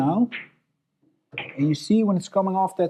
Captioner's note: balls clacking